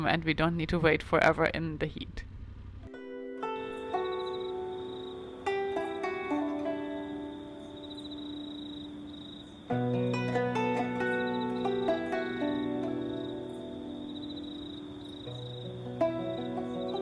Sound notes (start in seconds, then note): 3.3 crickets chirping; 3.3 tranquil music